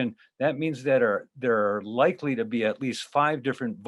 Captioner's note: stutters